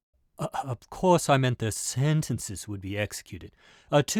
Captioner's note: stuttering